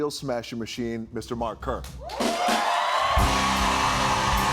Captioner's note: cheers and applause